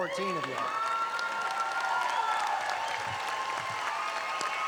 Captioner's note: audience applauding